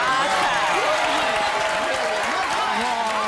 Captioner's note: applause and cheers